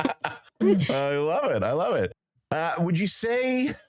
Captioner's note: laughing